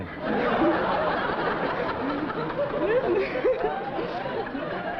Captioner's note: laughter